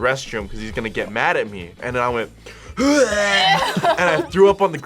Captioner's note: grunts